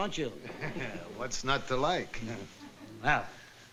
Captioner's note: chuckles